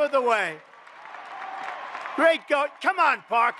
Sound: applause

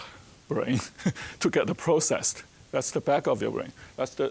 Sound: chuckling

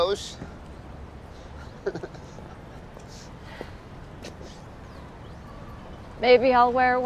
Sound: chuckles

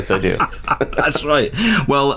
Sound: laughter

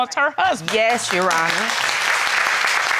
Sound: all applauding

